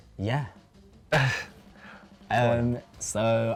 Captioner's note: laughs